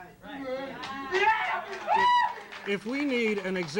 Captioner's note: audience cheering